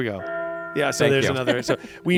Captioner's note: bell tolls